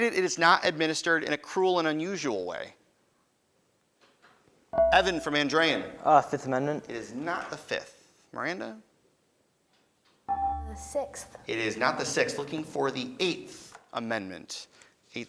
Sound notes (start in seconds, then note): 4.7 beeping; 10.3 beeping